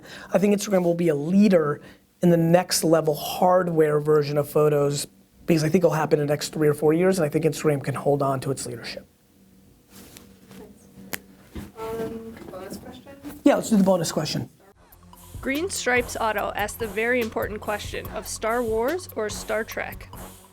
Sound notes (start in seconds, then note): 15.5 voiceover